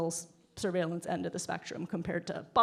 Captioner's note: none